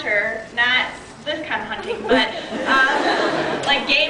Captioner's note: laughs